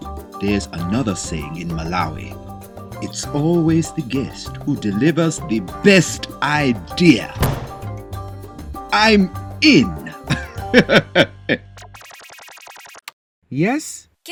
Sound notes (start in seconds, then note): 10.1 laughs; 11.6 phone beeps